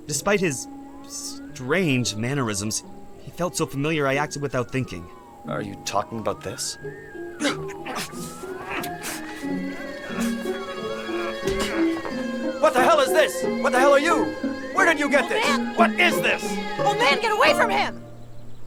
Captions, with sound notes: - Despite his strange mannerisms, he felt so familiar I acted without thinking. - Are you talking about this? (both grunting) - What the hell is this? What the hell are you? Where did you get this? - Old man. - What is this? - Old man, get away from him!